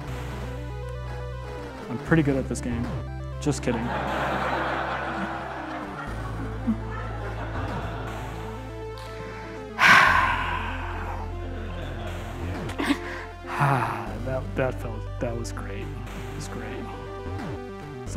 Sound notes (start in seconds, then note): 3.6 audience laughing; 9.7 sighing; 12.8 sighing